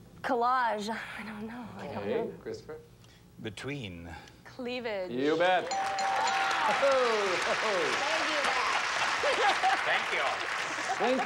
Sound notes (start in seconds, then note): 5.6 audience applauding